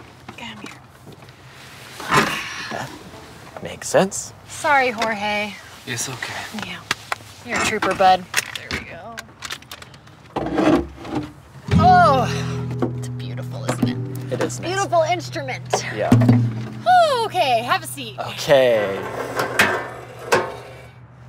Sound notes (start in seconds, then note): 5.8 Mexican accent; 6.5 pats; 10.4 rustling; 11.7 guitar strums; 18.7 metal clanking